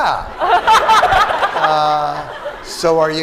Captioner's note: laughter